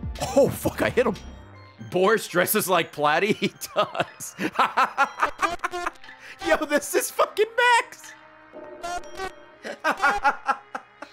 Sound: laughs

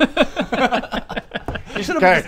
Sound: laughs

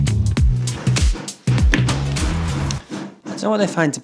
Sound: banging from construction

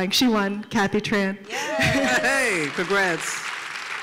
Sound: applause

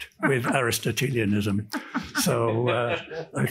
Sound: panelist chuckles

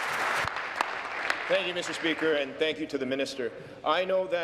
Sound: applause

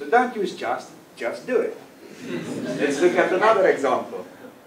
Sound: laugh

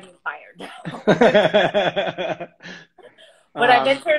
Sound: laughs

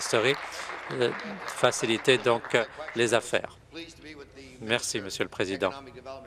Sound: applause

